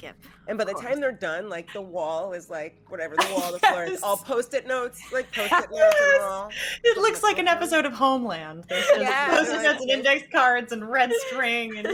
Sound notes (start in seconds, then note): 5.1 laughing; 8.7 laughing